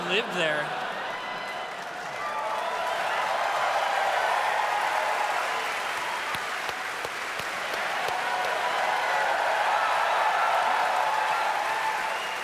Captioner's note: audience cheers